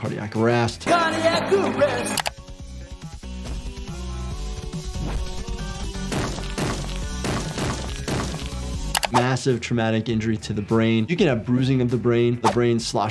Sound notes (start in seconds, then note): 0.7 upbeat music; 2.2 mouse clicking; 5.6 blood squelching; 5.6 body thudding